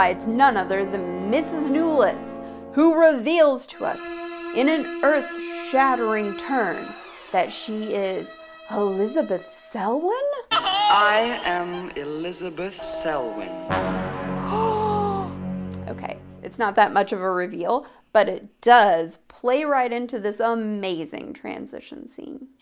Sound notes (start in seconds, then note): 12.6 gasp